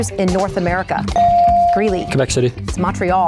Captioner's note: bell dings